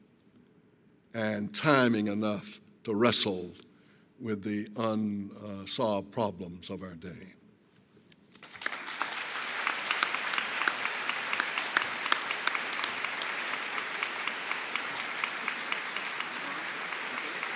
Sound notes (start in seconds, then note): 8.3 applause